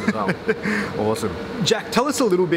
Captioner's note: laughs